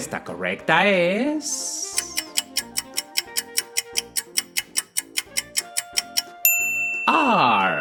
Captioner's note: A clock ticks and a bell sounds revealing the solution